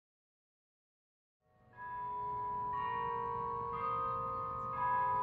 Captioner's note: bell chiming